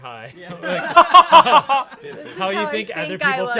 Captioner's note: everyone laughs